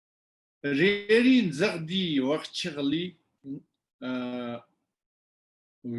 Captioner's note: tibetan